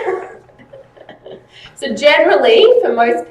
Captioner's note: laughs